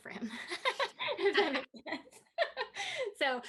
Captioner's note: laughing